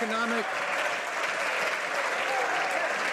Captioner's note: some Applause